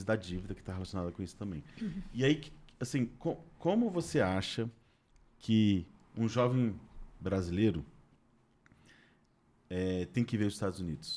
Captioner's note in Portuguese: limpando a garganta